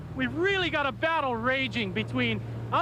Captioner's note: boat engine running